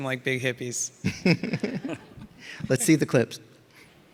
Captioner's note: all laughing